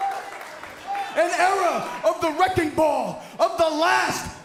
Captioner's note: cheers & applause